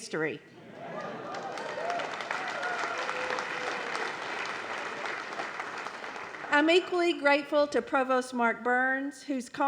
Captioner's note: applause